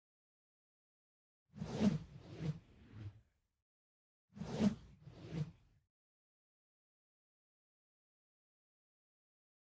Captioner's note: swoosh